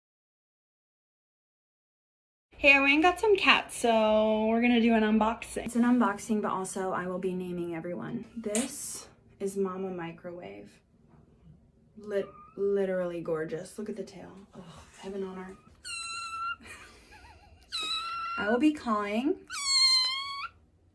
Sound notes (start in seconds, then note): 15.8 loud, squeaky meow; 19.4 meow